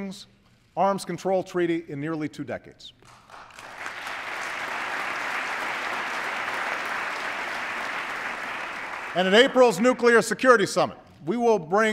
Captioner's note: applause